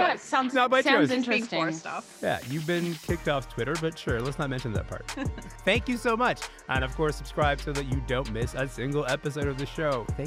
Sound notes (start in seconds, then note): 4.9 giggles